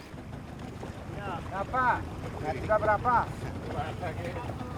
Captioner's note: speaking Austronesian language